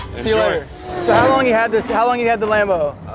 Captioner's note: car revs